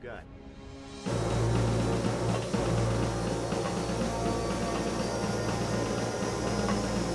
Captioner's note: intense music; engine whirring